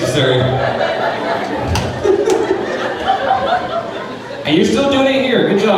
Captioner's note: crowd laughing